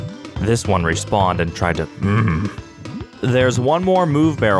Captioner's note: grunt